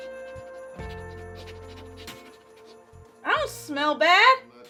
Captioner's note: Arizona sniffs